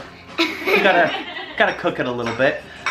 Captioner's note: laughing